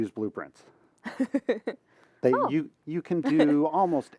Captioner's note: laughter